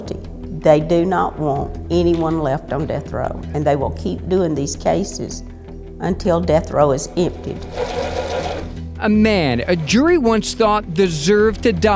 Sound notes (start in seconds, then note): 6.6 projector whirring; 7.5 gentle upbeat music